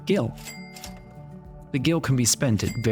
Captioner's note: cash register chimes